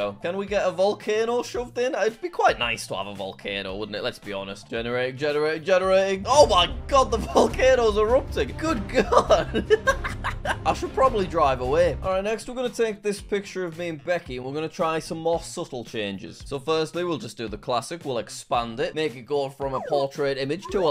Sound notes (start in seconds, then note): 9.3 laughing